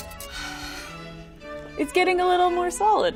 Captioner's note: sighs